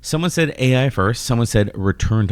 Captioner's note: uh